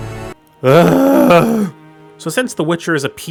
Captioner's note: exaggerated groan